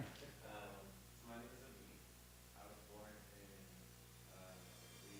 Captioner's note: laugh